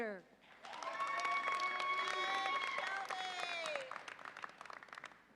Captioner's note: audience applauds and cheers